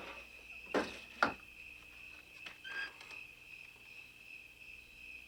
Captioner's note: crickets chirping